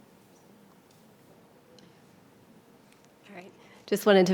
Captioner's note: presenters speaking faintly